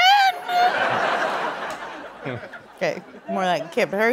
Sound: laughter

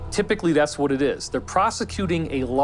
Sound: none

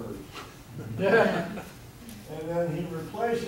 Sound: audience laughing

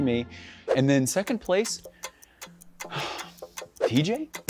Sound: clock ticking

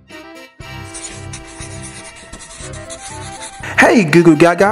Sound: scribbling

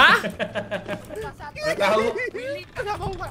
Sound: laugh

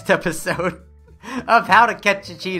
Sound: kawaii laugh

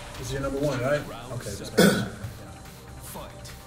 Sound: cough

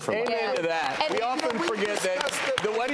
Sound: applause

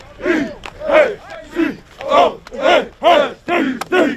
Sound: chanting

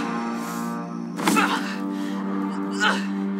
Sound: groans

